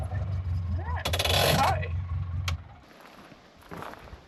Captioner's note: ATV engine rumbling; hand brake creaking; footsteps crunching